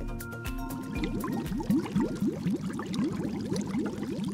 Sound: bubbling

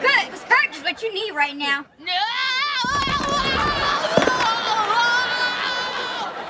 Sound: screaming

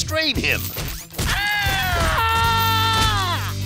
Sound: screaming

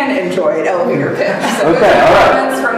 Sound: audience laughing

